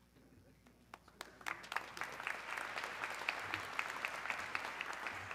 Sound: audience clapping

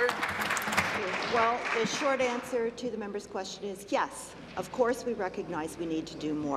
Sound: applause

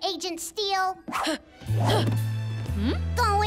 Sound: grunting

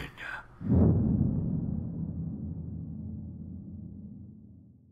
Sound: boom

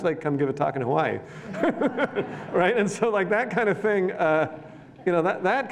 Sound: laughter

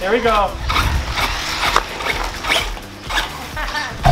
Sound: car whirs

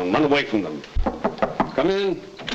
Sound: knocking at door

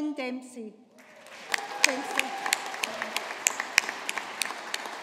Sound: audience applauding

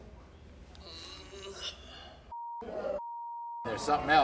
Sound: groans

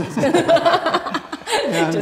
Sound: laughing

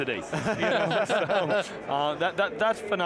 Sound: laughter

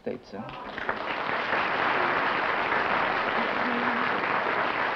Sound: applause

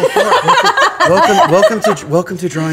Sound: laughter

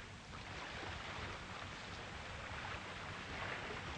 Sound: waves lapping

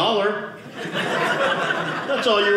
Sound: audience laughing

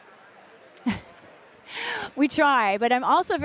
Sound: laughter

